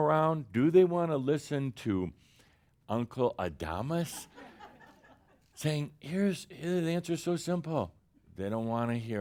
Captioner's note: some chuckles